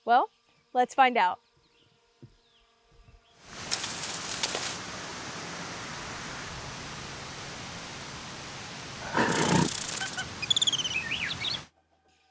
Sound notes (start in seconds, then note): 3.5 wind blowing; 8.7 wildlife noises; 8.9 birds chirp, monkeys howl, rattlesnake rattle, etc